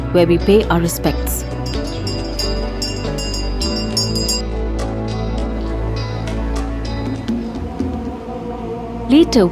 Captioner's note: gentle music; moves into eerie music; bell jingling